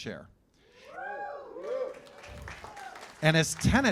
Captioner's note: cheers and applause